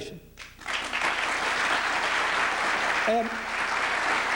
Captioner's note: applause